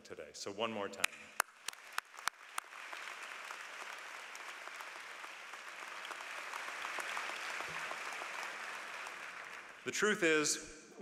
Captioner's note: applause